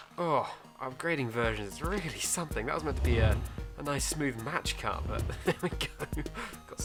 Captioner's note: laughs